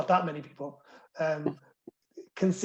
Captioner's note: laughter